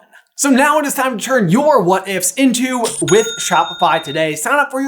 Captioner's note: cha-ching!